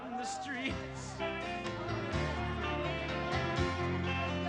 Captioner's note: crowd chattering